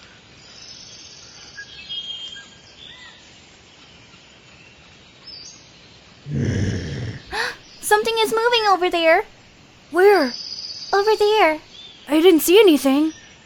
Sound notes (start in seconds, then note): 6.2 gasps; 6.3 woman groaning